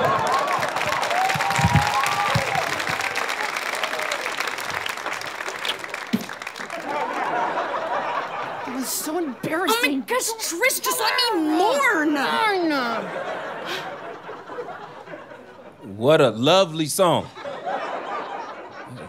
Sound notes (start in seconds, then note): 0.0 audience applause; 6.1 audience laughter; 12.5 through clenched teeth; 17.2 audience laughter